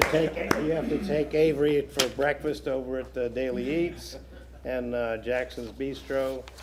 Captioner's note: laughter